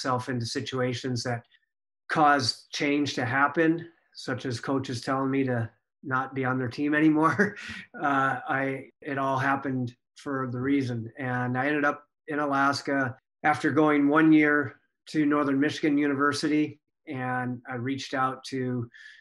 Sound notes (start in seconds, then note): 7.4 laughs